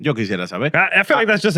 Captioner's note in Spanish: Hablando en idioma extranjero